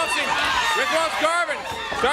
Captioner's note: crowd cheering